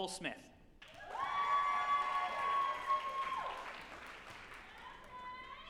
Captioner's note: group applauding and cheering